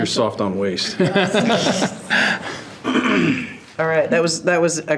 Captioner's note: trustees laughing